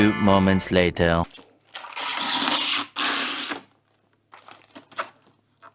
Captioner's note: plastic crinkling